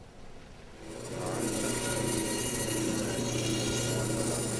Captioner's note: machine whirring